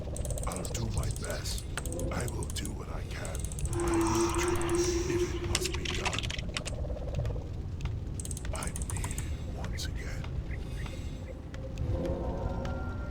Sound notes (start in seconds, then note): 5.2 typing